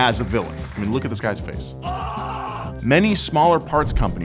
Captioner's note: screams